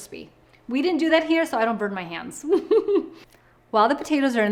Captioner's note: giggles